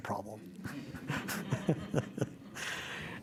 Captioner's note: laughter